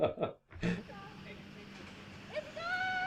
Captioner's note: sound of truck approaching